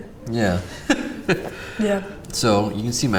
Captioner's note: laughs